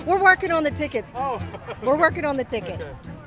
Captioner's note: laughing